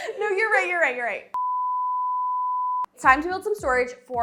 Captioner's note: beeping